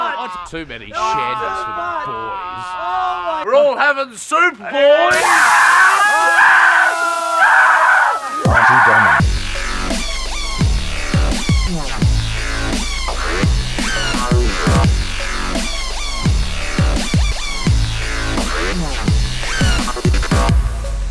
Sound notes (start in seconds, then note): 5.0 sizzling sounds and screaming; 8.2 dubstep